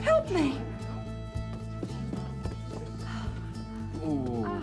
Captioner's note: diners murmuring